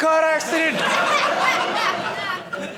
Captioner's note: audience laughing